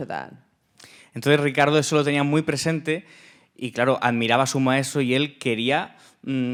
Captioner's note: speaking in Spanish